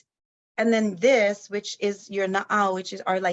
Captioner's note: speaks in foreign language